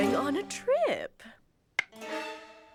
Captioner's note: none